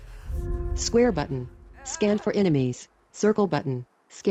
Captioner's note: automated voice